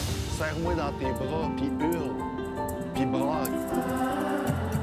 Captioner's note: speaking French